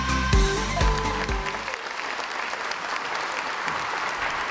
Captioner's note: crowd applauds